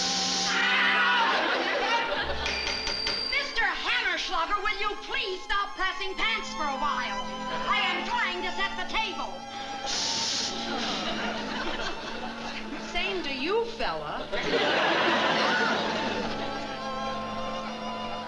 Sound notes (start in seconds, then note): 2.3 banging